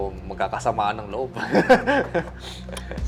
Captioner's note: chuckles